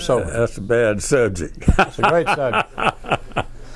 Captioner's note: laughs